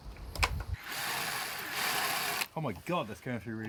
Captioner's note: drilling noise